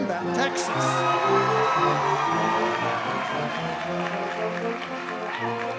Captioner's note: audience cheers and applauds